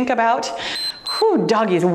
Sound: timer beeps

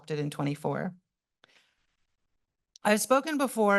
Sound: pause

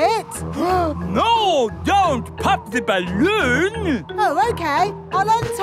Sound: gasps

